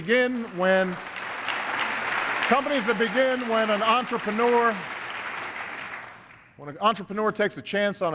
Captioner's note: applause